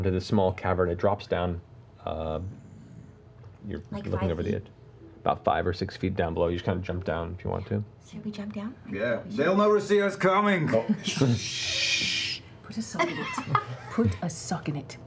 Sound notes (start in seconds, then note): 11.1 shushing